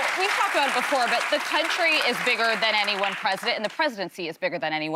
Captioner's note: applause